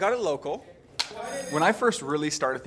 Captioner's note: clicks